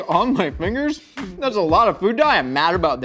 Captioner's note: laughs